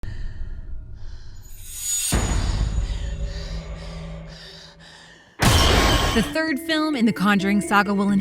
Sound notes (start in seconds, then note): 1.6 metal screech; 2.8 panting; 5.4 bang